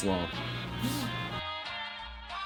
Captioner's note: imitates clipper sound